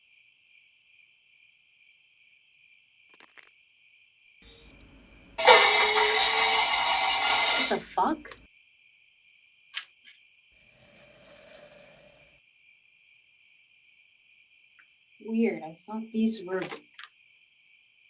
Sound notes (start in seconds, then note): 5.4 crash, like a pan hitting the floor; 10.7 faint, sweeping sound